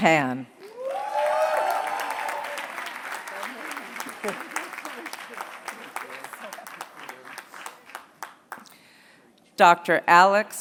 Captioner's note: applause